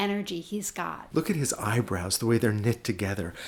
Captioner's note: voiceover